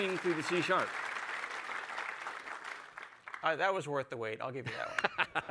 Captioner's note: applause